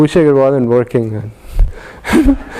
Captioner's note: laugh